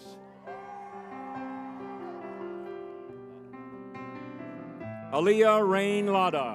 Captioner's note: crowd cheering; spirited music